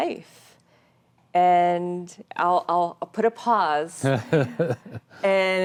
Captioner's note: laughing